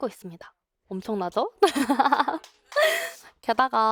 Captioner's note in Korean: 웃음